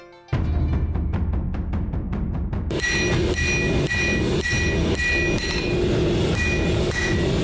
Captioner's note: beating drums; hammering slamming